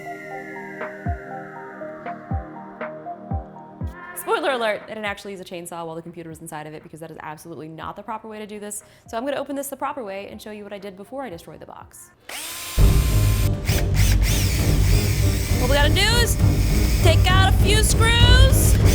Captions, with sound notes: Spoiler alert, it actually is a chainsaw while the computers inside of it because that is absolutely not the proper way to do this. So I'm gonna open this the proper way and show you what I did before I destroyed the box. (dramatic music) (drill whirring) All we gotta do is take out a few screws!